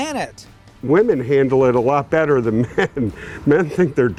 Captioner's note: laughs